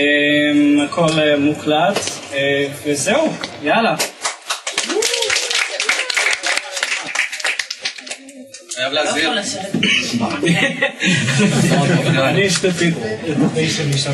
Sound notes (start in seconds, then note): 4.0 applause